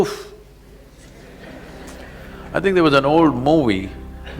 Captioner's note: laughter